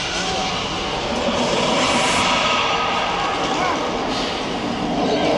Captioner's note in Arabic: زئير الديناصورات